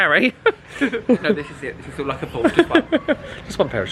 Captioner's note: laughing